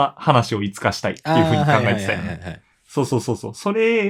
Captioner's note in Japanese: 笑い